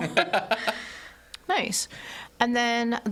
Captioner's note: all laughing